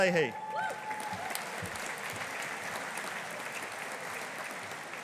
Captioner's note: audience applauding